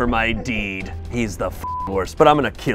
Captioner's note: beep